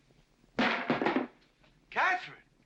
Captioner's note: loud bang